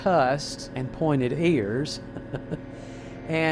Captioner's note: laughs